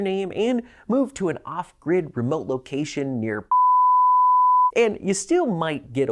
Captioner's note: beep